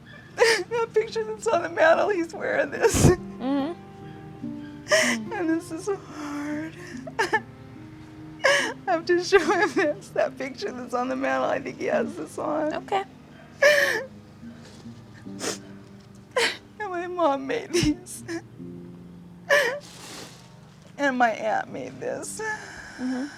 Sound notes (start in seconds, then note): 6.7 crying; 16.3 sobbing; 16.6 crying